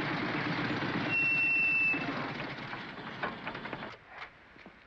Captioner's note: motorcycle engines clatter; brakes squeal; motorcycle engines clatter